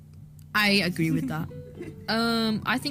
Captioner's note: giggles